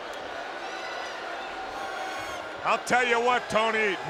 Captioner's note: spectators cheering